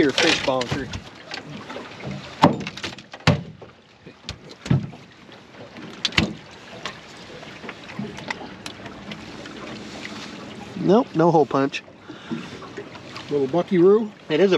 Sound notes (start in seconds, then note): 0.0 fish splashing; 3.9 thunk, thunk